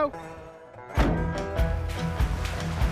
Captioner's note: van door shutting